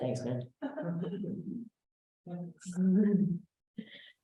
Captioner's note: laughter